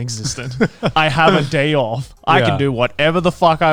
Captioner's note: laughs